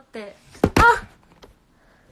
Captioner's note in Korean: 또 우당탕